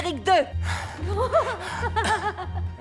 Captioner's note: couple moaning; couple giggling